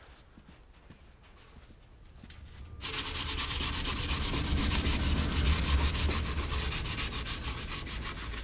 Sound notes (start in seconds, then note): 2.8 sandpaper scraping